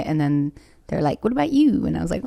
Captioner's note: none